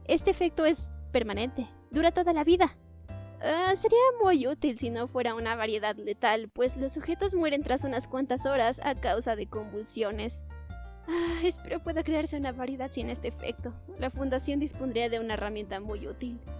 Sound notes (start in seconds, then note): 10.7 sigh